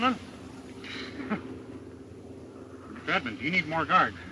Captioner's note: Bob and Mary chuckle